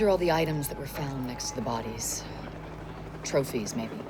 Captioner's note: none